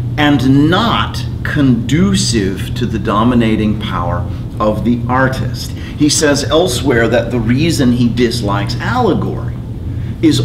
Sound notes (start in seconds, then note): none